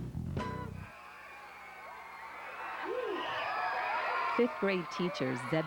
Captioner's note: children screaming